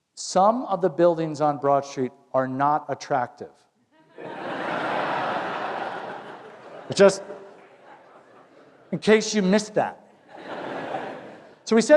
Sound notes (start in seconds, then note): 4.0 laughter